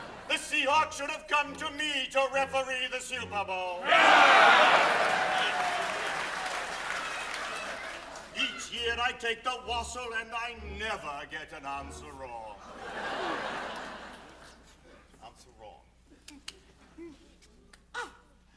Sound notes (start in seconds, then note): 3.8 cheering, applause; 12.6 laughter